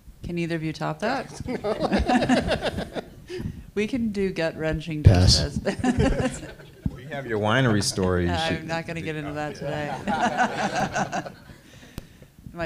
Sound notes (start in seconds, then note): 1.2 panel laughs; 11.7 laughs